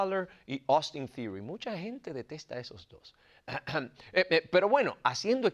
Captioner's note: cough